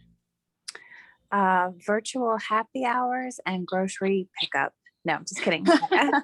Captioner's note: laughing